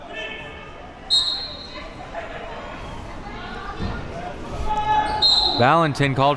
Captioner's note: whistle blows